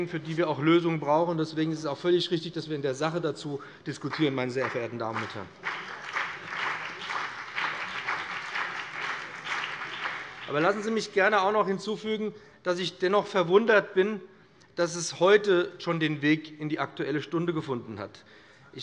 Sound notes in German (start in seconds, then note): 4.0 Beifall BÜNDNIS 90/DIE GRÜNEN und CDU